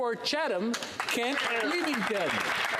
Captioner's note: speaking French